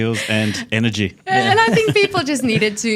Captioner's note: laughs